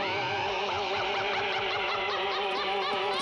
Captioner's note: scarecrow cackling